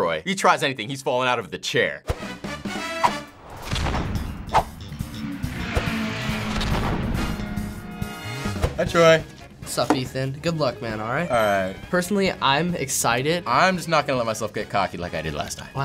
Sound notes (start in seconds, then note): 2.0 funk music; 4.6 race car engines vroom